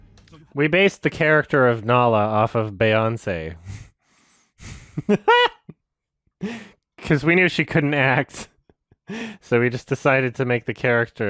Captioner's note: laughs